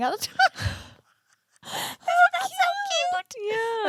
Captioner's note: giggling